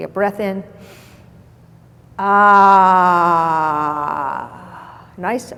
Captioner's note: inhales